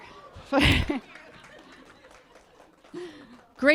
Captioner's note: laughter; applause